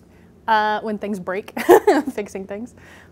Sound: laughs

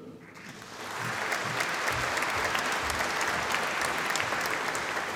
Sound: audience applauding

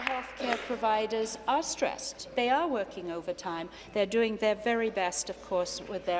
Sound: applause

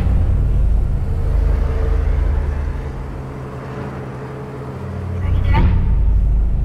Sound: passing truck roars

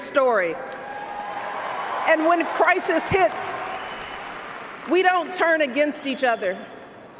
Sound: cheers, applause

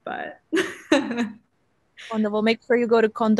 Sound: laughs

